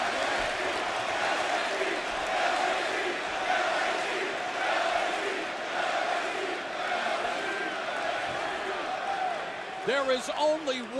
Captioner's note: crowed cheering